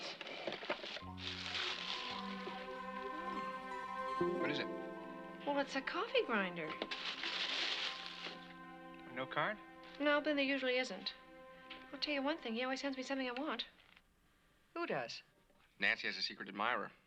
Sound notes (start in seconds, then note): 6.7 paper Rustling